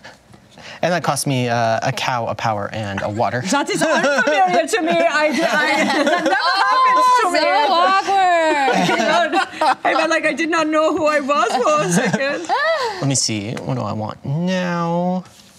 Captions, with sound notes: And that cost me a cow, a power, and a water. (imitates German accent) That is ... area to me. (laughter) That never happens ... So awkward! (imitates German accent) I mean like, I did not know who I was for a second. Let me see, what do I want now?